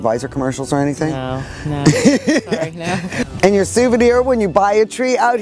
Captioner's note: laughter